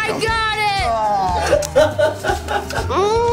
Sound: laughing

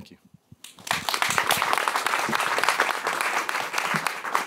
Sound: applause

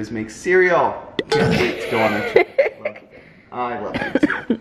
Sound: laughs

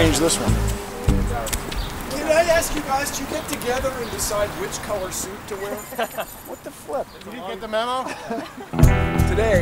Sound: group bantering

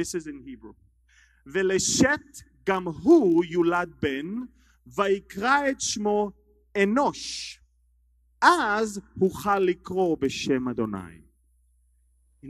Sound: speaking Hebrew

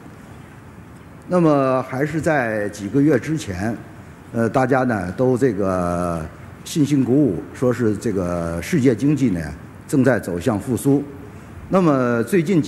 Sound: speaking in Chinese

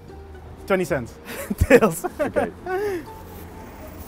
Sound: laughs

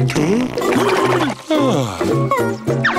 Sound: groaning

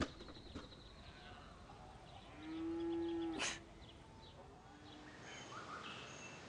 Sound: radio crashing; birds chirping; cows mooing

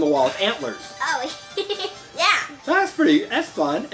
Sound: chuckles

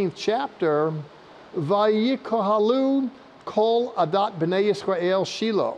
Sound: speaking in Hebrew

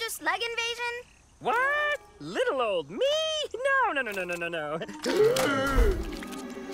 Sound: gasps

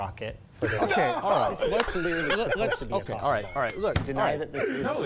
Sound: laughter

